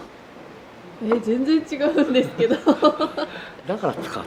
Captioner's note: laughs